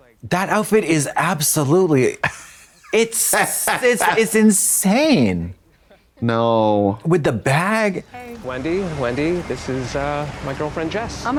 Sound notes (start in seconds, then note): 0.4 Trixie guffaws